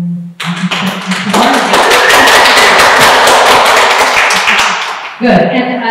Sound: applause

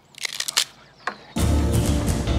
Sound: bones crack

